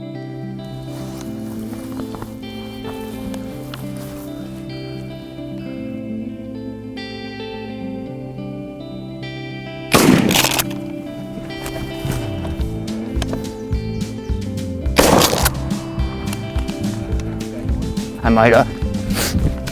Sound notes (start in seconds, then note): 0.3 peaceful music; 9.9 gun roars; 14.9 gun roars